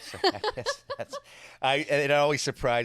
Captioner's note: laughs